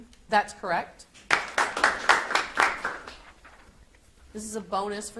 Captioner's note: audience applauds